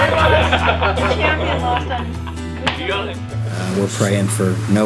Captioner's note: everyone laughing